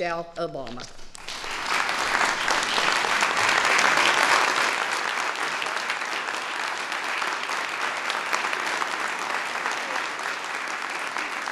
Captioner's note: applause